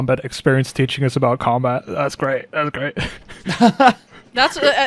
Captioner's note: laughs